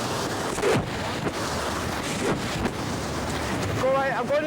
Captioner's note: waves crashing; wind whooshing